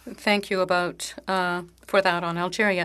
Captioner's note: speaking French